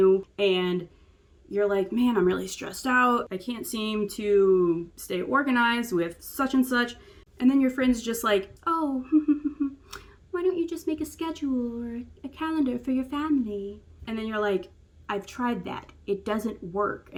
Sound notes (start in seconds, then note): 8.9 feminine giggle